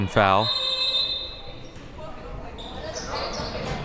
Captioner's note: whistle blows